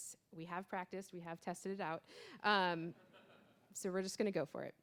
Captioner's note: audience laughing